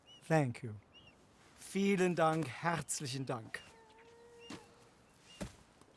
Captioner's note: in German; in German